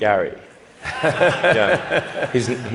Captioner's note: laughter